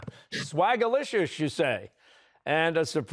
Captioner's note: chuckling